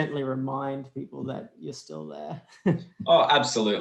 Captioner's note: laughs